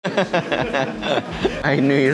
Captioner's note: laughing